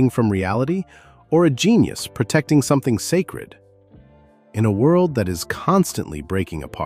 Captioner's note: thoughtful